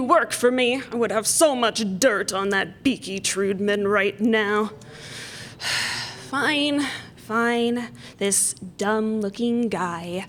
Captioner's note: normal voice; demon voice